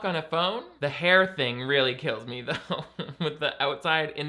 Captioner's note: laughs